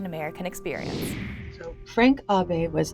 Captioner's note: screen whooshing